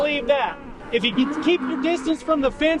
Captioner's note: cattle sounds